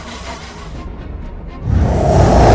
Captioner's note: roars; blast